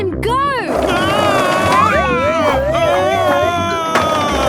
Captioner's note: shouting